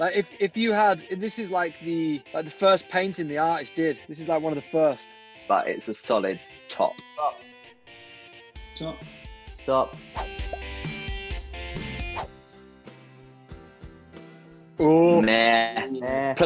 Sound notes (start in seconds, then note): 10.2 swooshing; 12.4 soft rock music